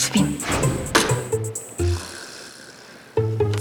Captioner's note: annoyed